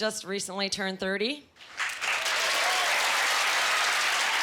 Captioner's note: cheering